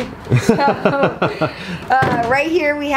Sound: laughs

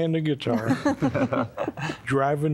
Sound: laughter

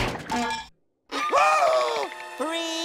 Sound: gasping

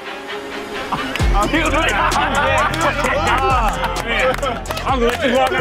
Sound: group exclaim and laugh

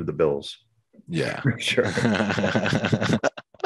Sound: laughs

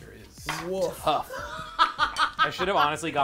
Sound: laughs

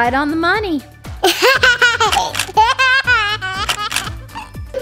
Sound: laughs

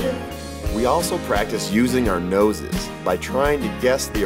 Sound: voiceover

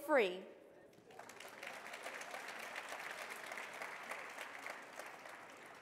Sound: audience clapping

